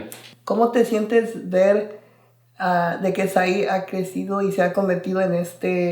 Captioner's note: speaking in foreign language